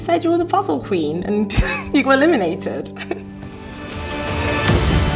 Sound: laughs; dramatic music

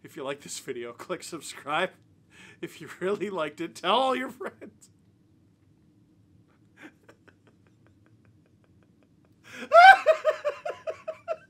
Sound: screaming

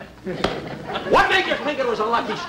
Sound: smack

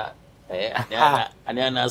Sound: both laughing

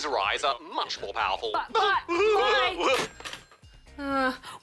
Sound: laughs

